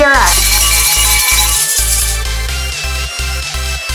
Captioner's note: bells ringing